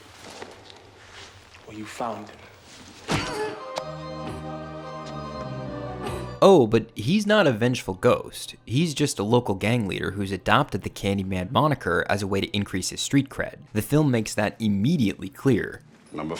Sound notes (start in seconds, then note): 3.0 muffled scream